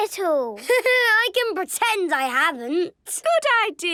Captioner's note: Danny laughing